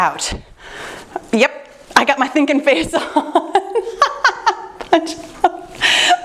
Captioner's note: laughing